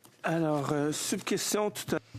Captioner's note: speaking French